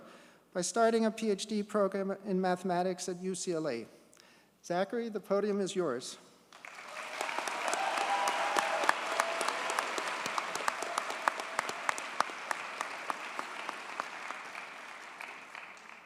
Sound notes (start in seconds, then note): 6.5 audience cheers and applauds